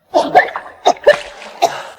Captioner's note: coughing